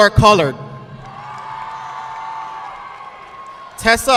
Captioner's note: audience clapping